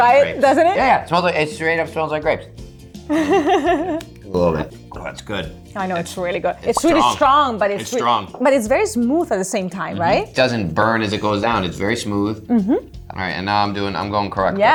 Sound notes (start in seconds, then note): 3.2 laughing